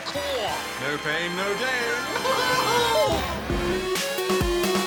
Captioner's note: laughs